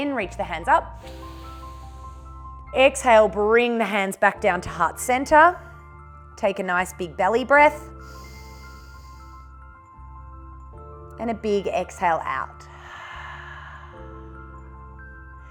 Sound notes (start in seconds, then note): 0.9 inhales; 7.9 inhales; 12.6 exhales